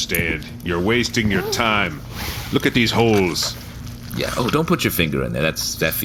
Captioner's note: squishing sound